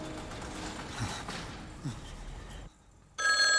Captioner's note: shivering; rings